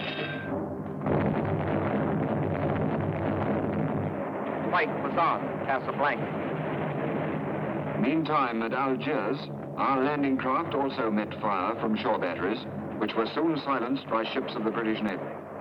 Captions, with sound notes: [cannons firing] Fight was on at Casablanca. Meantime, at Algiers, our landing craft also met fire from shore batteries which was soon silenced by ships of the British navy.